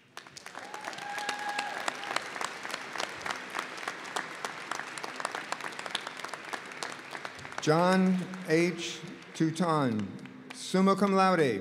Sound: applause

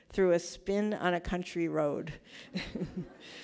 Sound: laughs

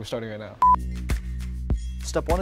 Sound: beep

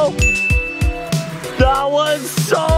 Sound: ding

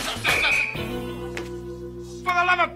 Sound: whistle blaring

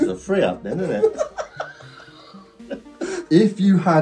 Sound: both laughing

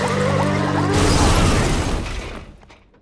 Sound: banging

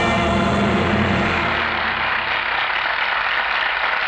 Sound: applause

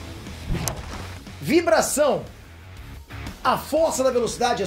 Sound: vibration

